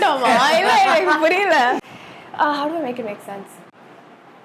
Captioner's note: laughs